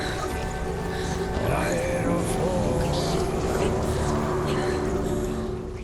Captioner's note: indistinct chatter